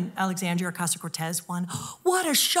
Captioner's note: gasps